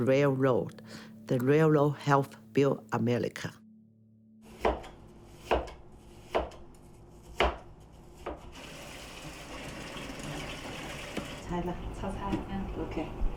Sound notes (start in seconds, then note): 4.5 knife chopping; 8.5 water running; 10.6 speaking in foreign language